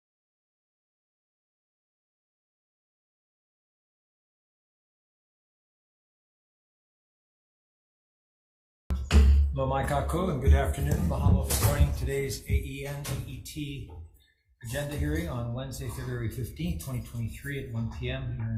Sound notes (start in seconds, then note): 9.1 speaking Hawaiian; 9.8 gavel banging